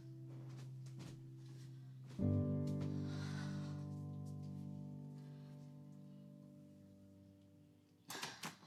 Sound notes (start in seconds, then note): 3.3 Cassie sighing